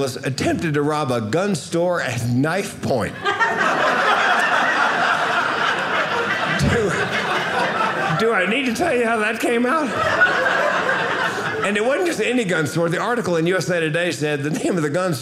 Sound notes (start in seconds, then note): 3.4 audience laughing; 10.5 audience laughing